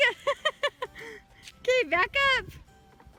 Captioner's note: laughing